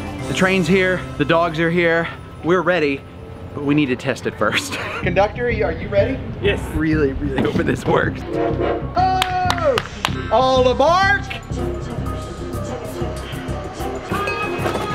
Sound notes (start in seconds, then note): 4.4 laughs; 8.2 train horn toots; 9.2 claps; 11.7 train chugging; 13.8 bell ringing